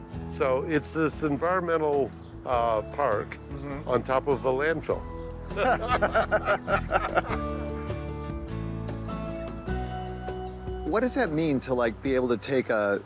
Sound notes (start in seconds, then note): 5.1 peaceful music; 5.5 both laugh